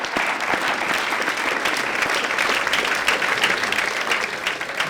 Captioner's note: audience applauds